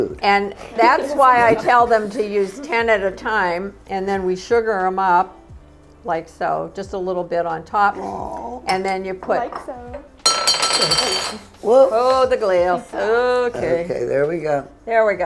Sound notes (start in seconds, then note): 10.2 glass bounces